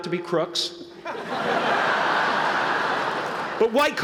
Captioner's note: laughter